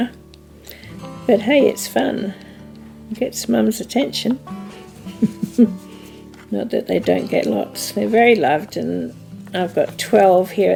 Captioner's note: laughs